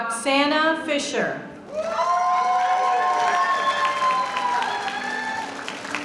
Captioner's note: applause